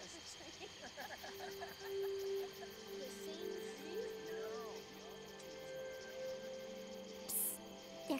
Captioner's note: night sounds